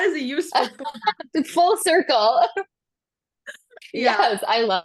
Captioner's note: laughs